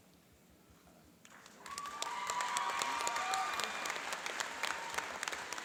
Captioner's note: cheering and applauding